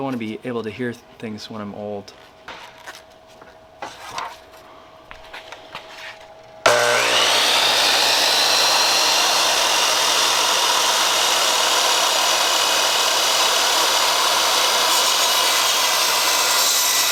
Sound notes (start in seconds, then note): 6.7 saw buzzing